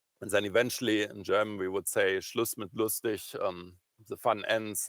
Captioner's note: german